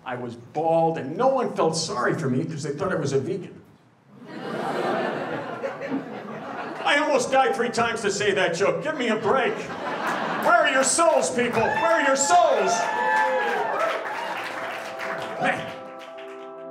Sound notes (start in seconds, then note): 4.2 audience laughing